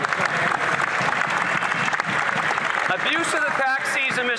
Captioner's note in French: voix de l'interprète